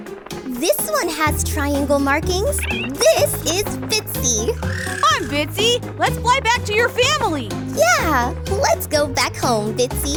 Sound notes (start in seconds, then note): 4.3 chirps